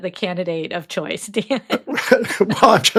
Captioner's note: chuckles